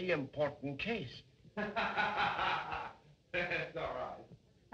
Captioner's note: laughter